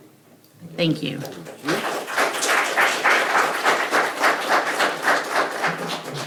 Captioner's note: audience clapping